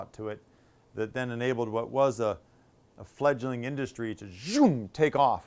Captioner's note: zhoom!